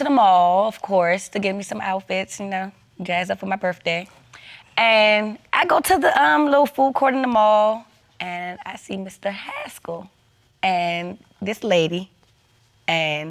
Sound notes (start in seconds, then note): none